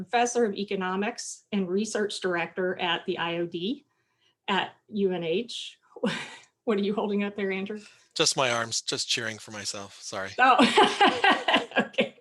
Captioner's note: chuckling